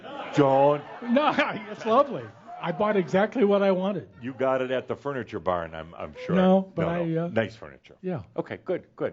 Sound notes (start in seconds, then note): 1.0 laughter